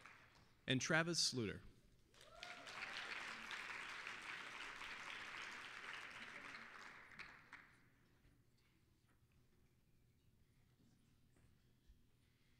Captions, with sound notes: AND TRAVIS SLOOTER. (applause)